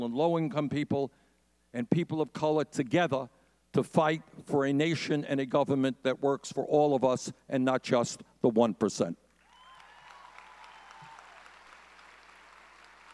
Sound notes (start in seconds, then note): 9.4 audience cheering